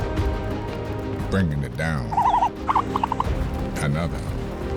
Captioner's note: trilling